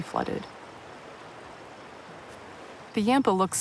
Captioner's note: water flowing